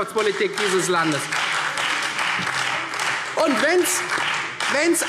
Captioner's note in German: Beifall